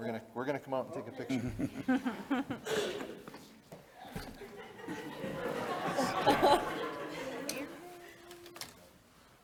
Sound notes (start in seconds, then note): 2.0 board members laughing